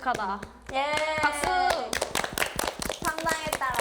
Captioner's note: applause